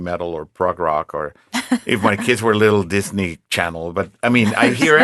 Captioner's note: laughing